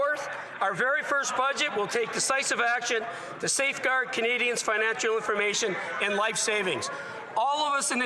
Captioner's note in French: voix de l'interprète